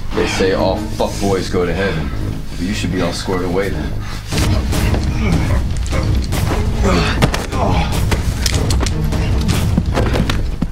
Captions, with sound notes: They say all fuck boys go to heaven. So you should be all squared away then. [Grunting] Ugh! Ahh! [Gun clacking on floor]